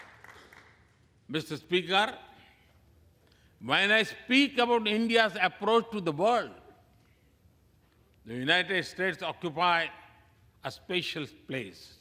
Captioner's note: applause